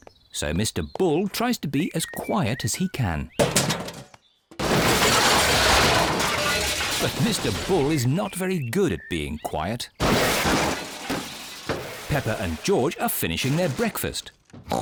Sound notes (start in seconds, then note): 3.3 garbage clattering; 10.0 clattering